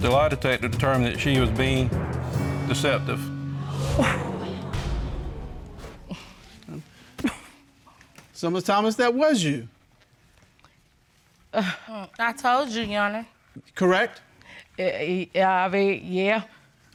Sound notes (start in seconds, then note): 3.5 audience exclaiming